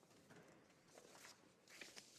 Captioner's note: speaking french